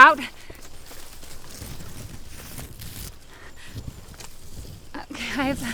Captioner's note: footsteps crunching